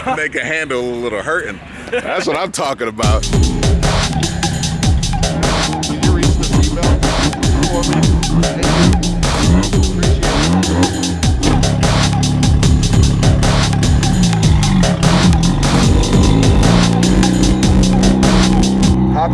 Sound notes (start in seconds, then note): 3.8 beat music; 11.0 engine idling; 14.5 engine revs